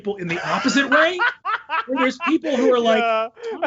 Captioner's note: laughs